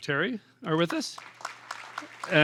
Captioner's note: applause